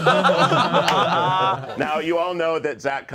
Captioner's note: all laughing